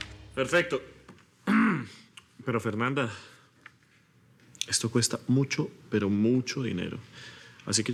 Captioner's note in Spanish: Carraspea